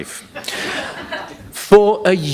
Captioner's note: laughter